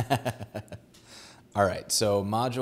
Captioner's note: laughs